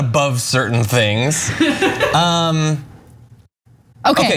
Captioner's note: laugh